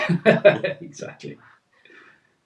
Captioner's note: laughs